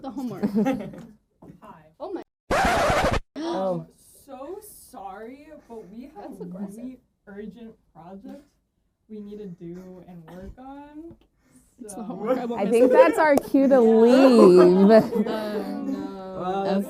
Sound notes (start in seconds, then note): 2.5 record scratch sound